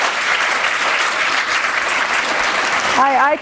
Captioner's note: applause